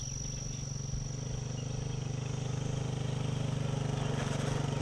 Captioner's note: engine revving